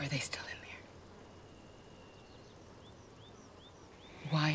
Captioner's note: birds chirping